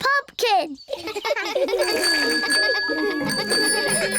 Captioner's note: all laugh; bicycle bell ringing